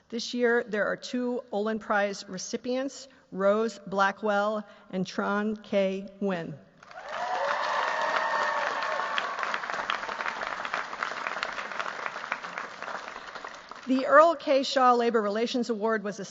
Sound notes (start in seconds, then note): 6.8 cheers, applause